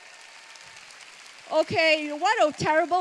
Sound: cheers

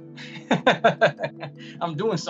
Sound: laughs

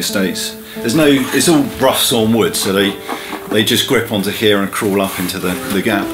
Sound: scratching on wood

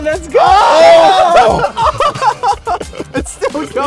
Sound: all cheering

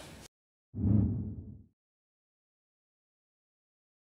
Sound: graphic whooshing

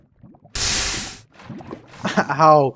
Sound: more nuclear item burning sounds

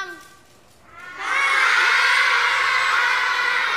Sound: students laughing

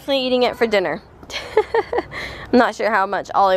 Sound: laughs

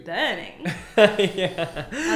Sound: both laughing

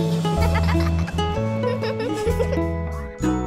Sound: laughing

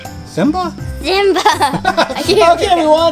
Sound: laughs

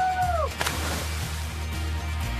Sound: water splashing; upbeat music

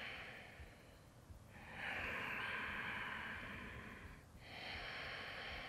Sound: deep breathing

